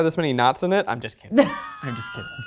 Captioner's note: laughs